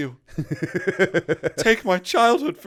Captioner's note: laughter